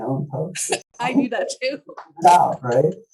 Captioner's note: laughs